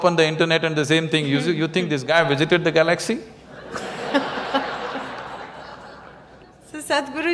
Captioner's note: laughter